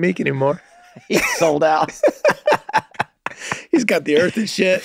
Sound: laughs

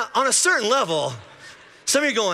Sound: congregation laughing

